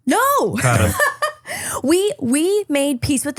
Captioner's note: laughing